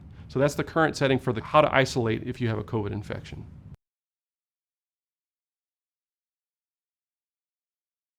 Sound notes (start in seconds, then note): 3.6 no audio